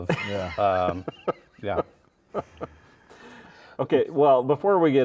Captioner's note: laughing